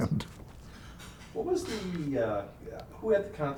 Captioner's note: chuckling